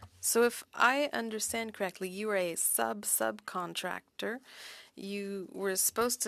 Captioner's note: speaking French